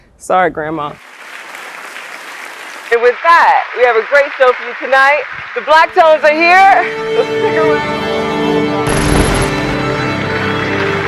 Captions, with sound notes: Sorry, Grandma. (applause) And with that, we have a great show for you tonight. The Black Tones are here. (orchestra warming up)